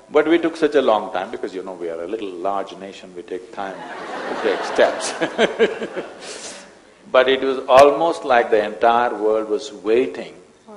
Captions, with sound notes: but we took such a long time because you know, we are a little large nation (Laughter), we take time to take steps (Laughs). But it was almost like the entire world was waiting